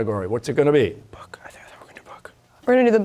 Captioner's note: whispering